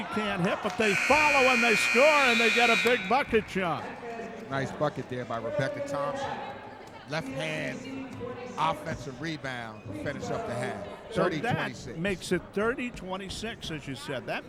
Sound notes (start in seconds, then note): 0.8 buzzer sounding